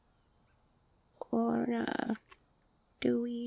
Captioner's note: tongue clicking